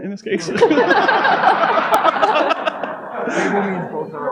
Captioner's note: audience laughing